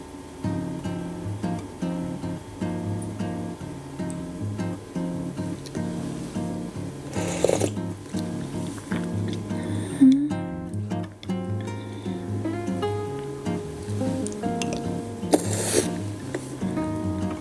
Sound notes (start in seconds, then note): 7.0 sipping